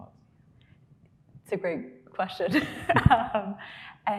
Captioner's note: laughing